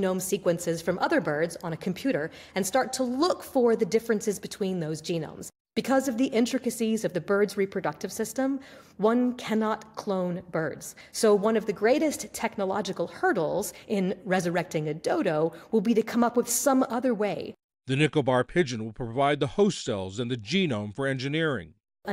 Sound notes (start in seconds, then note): 18.0 voice-over